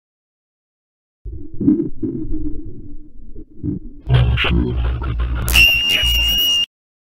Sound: sound of alien

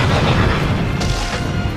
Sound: pathetic splat

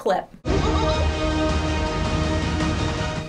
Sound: dramatic music; Pennywise chortles

